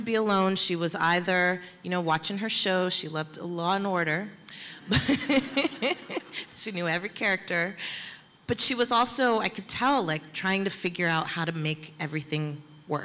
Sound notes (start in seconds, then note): 4.9 laughs